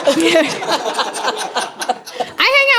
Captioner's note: laughter